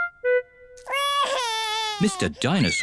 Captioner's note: wails